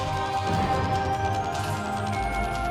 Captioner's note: gunshot